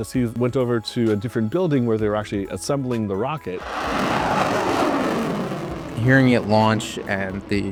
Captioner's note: rocket Ignition